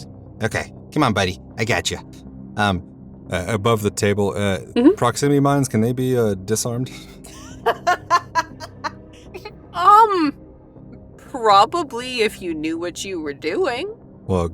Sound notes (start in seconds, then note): 7.2 laughs